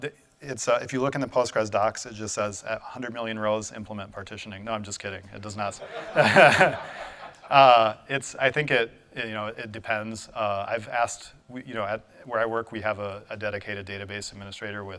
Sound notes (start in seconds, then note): 5.8 audience laughing